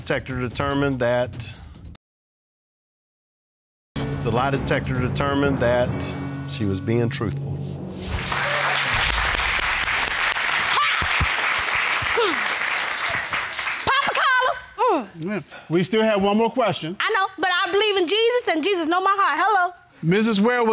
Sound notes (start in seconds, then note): 8.0 audience applauding